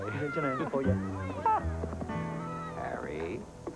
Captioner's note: laughs